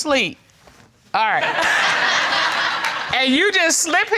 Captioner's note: audience laugh